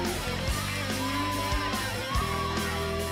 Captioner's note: crowd chatter; crowd cheering